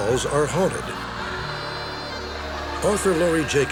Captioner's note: echoing laughter